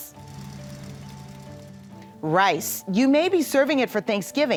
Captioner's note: tractor buzzing